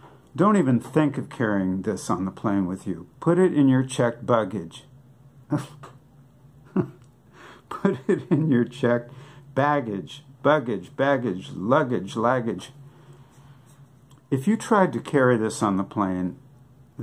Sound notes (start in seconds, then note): 6.6 laughing